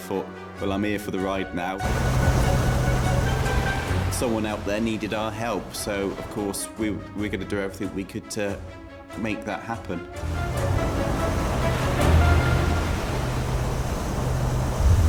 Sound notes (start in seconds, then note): 1.8 waves crashing; 3.2 dramatic music; 9.6 dramatic music; 12.4 waves crashing; 13.3 dramatic music